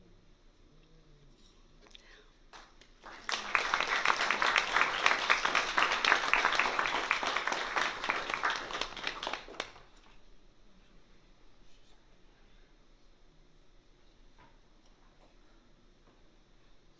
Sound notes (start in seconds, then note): 2.5 applause